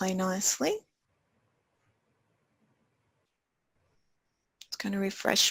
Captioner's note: pause